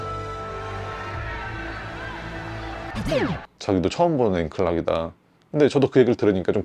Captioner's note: 박수